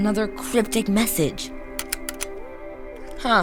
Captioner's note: rapid clicking